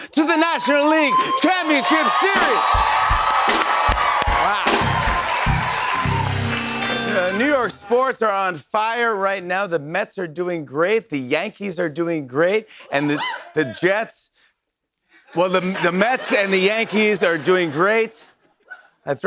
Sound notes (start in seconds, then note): 4.5 cheers and applause; 15.4 laughter